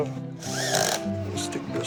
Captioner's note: drill whirs